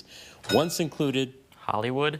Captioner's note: bell dings